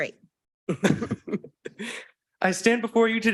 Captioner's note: laughing